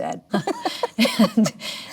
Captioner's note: Melanie laughs; chuckles